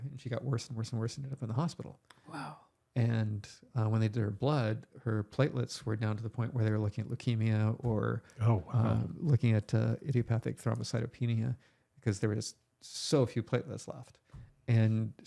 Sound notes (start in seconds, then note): none